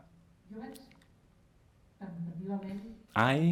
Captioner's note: speaks in a foreign language